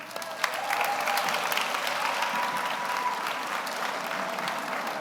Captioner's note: audience applauds